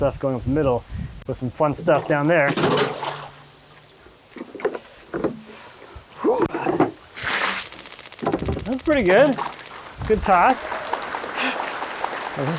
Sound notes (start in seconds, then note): 3.2 bucket clanging; 3.2 water sloshing; 6.9 water splashing; 7.6 counter ticking; 10.3 audience applauding; 10.5 laughing